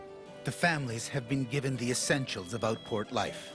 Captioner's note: voiceover